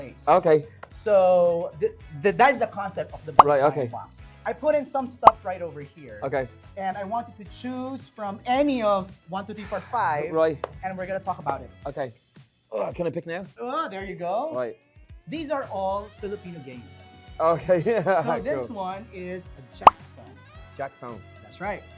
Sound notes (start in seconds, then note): 17.8 chuckles